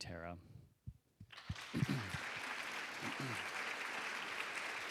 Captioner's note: applause